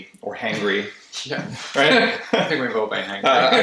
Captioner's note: laughter